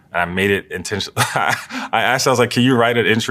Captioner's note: laugh